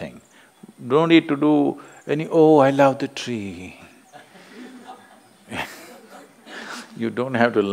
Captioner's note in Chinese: 有人笑